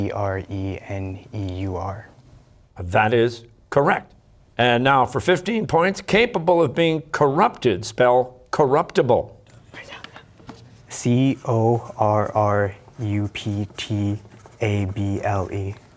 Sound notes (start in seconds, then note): 9.5 whispering